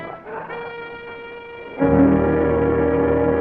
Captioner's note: serpent growls; suspenseful music